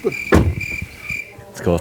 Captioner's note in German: Grillenzirpen